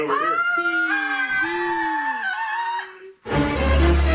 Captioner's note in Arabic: صراخ